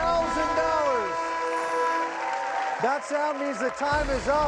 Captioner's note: horn blares